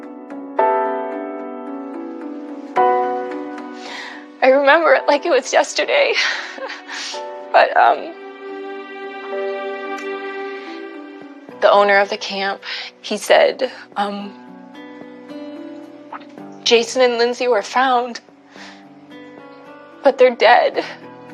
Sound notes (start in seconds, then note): 6.1 sobobs